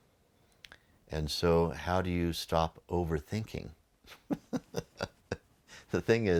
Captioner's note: laughs